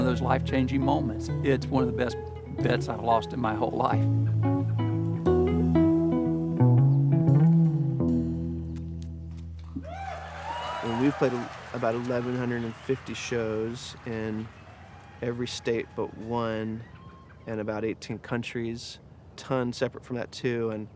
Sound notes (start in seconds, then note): 4.5 gentle guitar chords play; 9.8 audience cheers